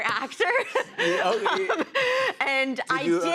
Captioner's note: laughing